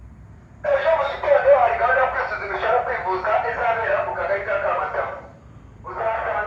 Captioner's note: very loud shouting through a megaphone in Kinyarwanda